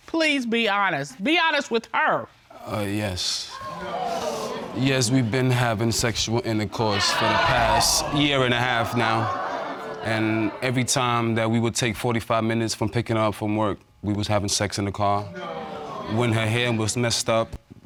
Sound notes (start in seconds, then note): 3.5 audience exclaiming; 15.3 audience exclaiming